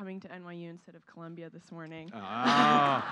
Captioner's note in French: Rires; Applaudissements